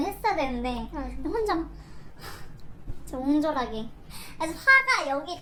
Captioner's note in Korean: 화난 숨소리